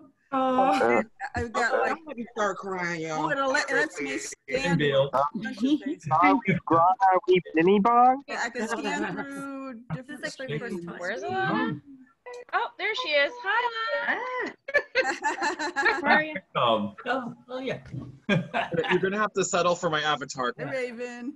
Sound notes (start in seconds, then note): 8.3 multiple voices, laughter; 14.5 laughter